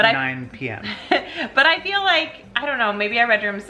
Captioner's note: laughs